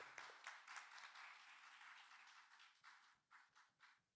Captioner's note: clapping